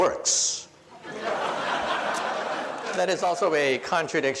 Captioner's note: audience laughs